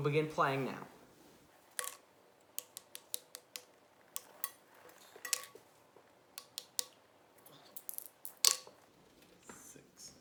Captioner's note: fast Forwarded Sounds